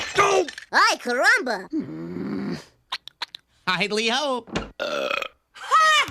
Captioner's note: Barney burp